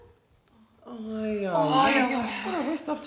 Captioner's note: scoffs; all sigh